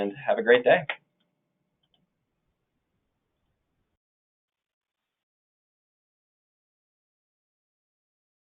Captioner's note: silence